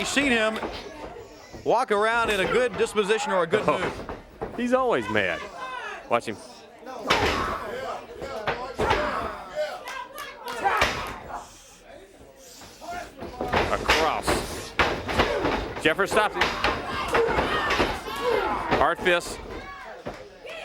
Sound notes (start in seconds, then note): 8.1 crowd chatter